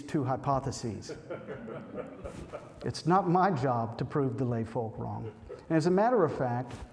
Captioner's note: laughter